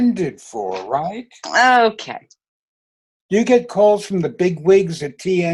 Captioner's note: laughing